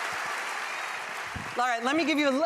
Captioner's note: applause